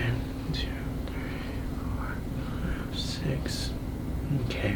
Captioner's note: whispers